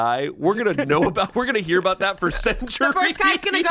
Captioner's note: laughs